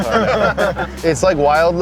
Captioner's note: laughing